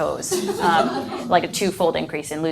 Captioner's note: audience laughs